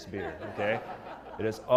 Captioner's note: laugh